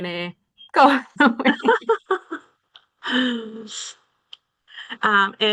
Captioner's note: everyone chuckles